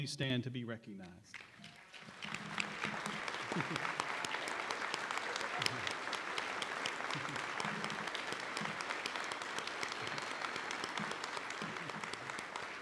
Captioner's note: applause